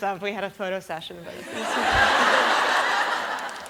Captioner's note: laughter